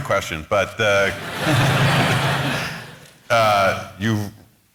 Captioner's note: laughter